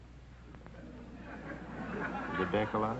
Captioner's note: audience laughter